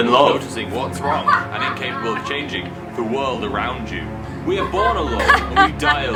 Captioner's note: more laughter